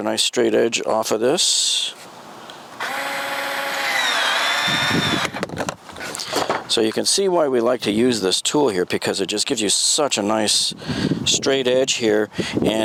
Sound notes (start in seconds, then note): 2.8 electric sawing